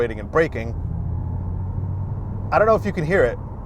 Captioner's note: car whooshing